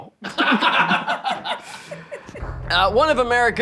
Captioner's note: all laughing